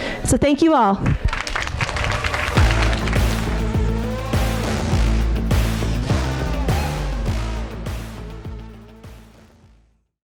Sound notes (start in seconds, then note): 1.2 audience applauding; 4.1 upbeat music